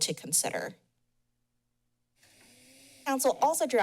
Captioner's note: pause